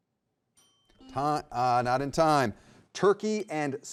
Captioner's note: timer dinging